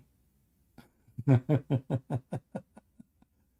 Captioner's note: Ketawa